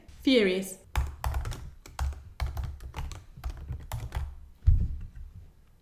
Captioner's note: aggressively types